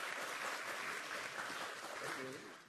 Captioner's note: applause